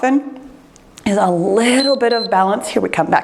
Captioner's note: timer beeps